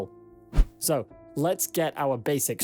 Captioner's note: screen swishes